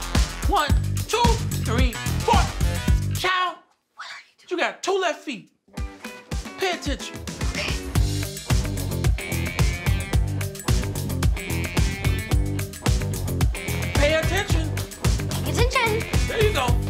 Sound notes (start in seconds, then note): 7.4 record scratches; 8.3 upbeat music